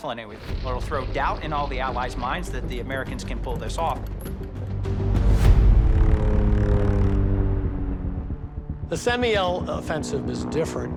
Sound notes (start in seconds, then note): 5.9 airplane engines roaring